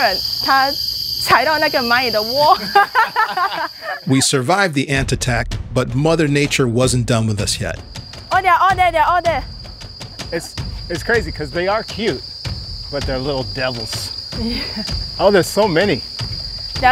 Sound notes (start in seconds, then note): 0.3 speaking in foreign language; 2.5 people laughing